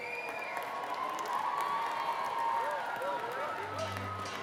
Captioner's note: cheers and applause